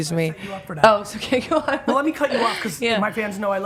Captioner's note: laughs